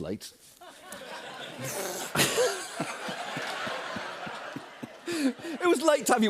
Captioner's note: laughter